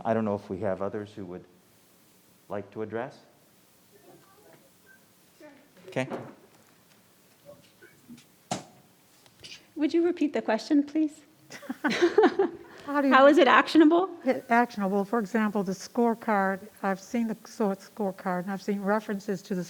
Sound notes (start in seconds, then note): 5.5 murmurs; 11.5 laughs